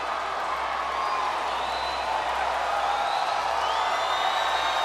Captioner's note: crowd cheering